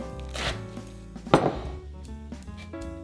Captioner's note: knife chopping